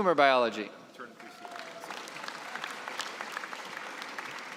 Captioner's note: applause